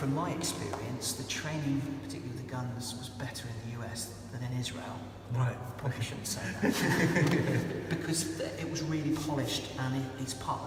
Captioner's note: laughs